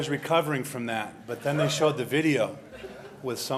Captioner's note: laughter